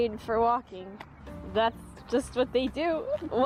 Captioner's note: trying not to laugh